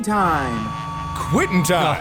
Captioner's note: work Whistle Sounds